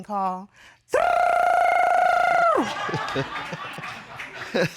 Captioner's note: rolls tongue; laughs